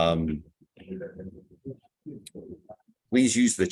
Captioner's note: background chatter